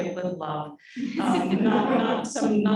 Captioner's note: audience laughing